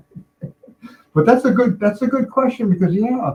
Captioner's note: both laughing